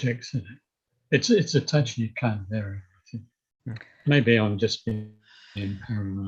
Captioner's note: tech glitch